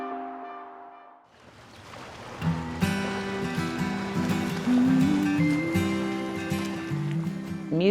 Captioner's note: chiming music; waves whooshing; gentle music